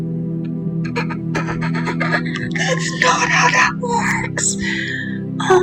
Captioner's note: muffled laughter